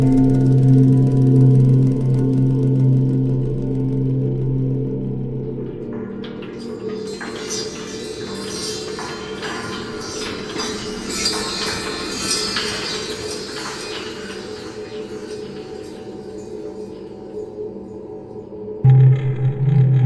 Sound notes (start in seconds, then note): 6.0 bells chiming; 6.8 items clattering; 16.4 pensive music continues